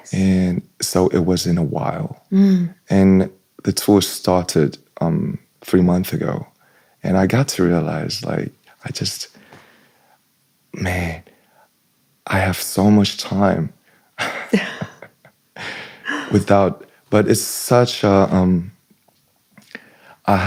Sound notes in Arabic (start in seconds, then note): 14.2 ضحك; 16.0 ينظف الحلق